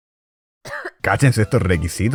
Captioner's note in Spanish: cof